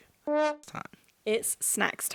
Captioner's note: horn honking